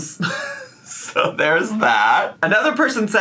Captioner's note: laughs